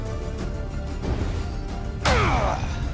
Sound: grunt

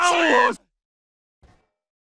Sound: Scream of Neco Arc

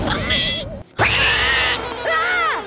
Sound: squeaking; squealing; screaming

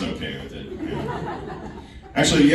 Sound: laughing

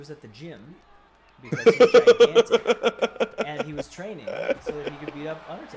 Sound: laugh

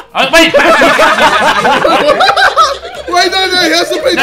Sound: group laughing

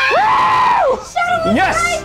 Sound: screams

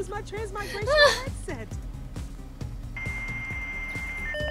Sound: Sabrina laughs; internet static

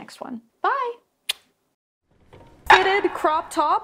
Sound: lips smacking

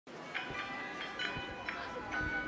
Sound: crowd chattering; carnival music

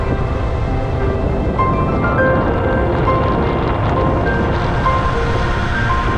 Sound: drone

